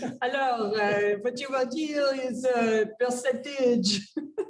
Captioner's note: speaks in French